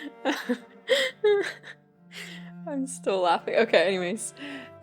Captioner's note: still laughing